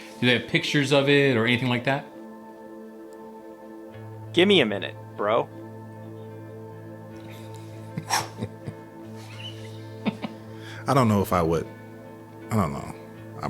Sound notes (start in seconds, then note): 8.3 swooshes air bat; 10.0 chuckles